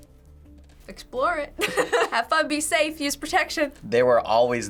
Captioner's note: laughs